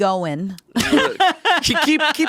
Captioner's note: laughing